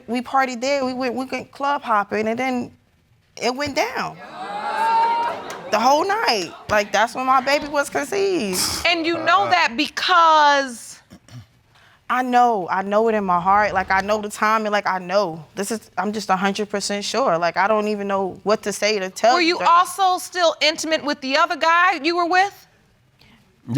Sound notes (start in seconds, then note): 4.2 audience gasps; 8.5 scoffs